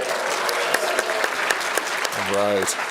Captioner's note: applause